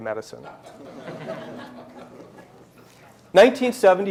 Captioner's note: laughter